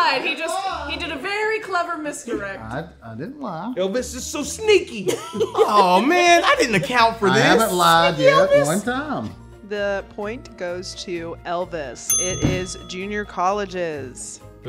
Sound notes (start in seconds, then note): 5.1 laughing; 12.1 bell dinging